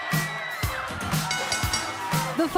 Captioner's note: bell ringing